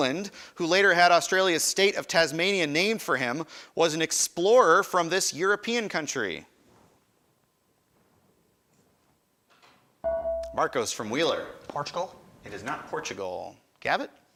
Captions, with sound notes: who later had Australia's state of Tasmania named for him was an explorer from this European country. (buzzer chimes) Marcos from Wheeler. >> Portugal. >> It is not Portugal. Gavit?